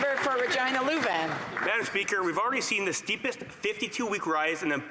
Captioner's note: some Applause